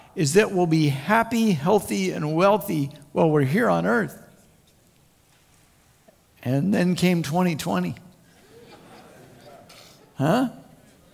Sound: crowd Laughs

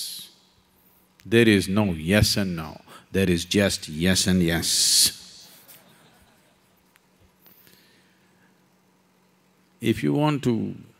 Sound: few laughs

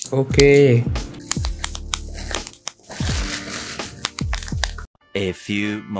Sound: intense bubble wrap destruction O_o

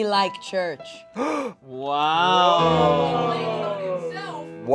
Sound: group exclaiming

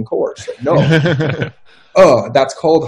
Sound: laughing

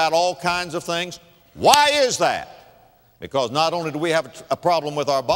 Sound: clap

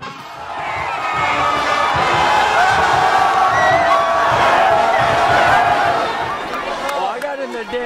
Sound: cheering

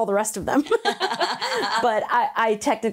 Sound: both laugh

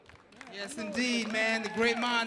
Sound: audience applauding

